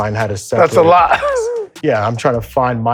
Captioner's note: laughs